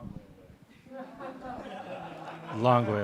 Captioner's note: audience laughs